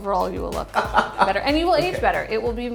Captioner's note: laughs